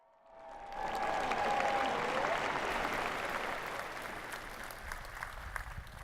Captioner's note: applause